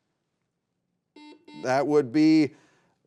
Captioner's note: buzzer beeping